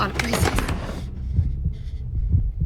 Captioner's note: door slamming